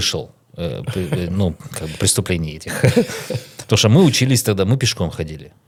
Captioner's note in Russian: смех